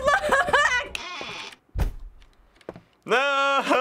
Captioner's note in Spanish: Puerta cruje, pum